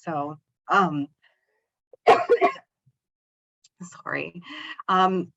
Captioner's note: coughs